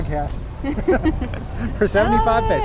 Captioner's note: both chucking